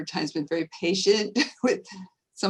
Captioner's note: laughing